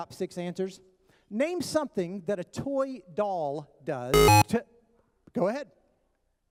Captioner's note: buzzer